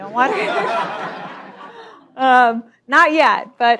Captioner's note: laughter